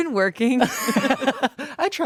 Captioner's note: everyone laughs